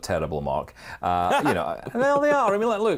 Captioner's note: laughs